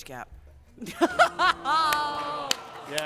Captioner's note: laughter